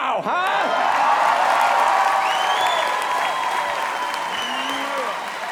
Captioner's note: audience claps and cheers